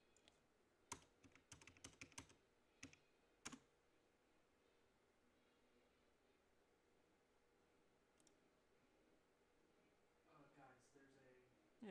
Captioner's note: mouse and keyboard clicking